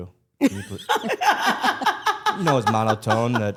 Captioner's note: Stephanie and Elyse laugh